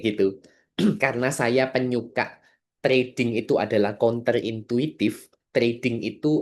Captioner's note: berdehem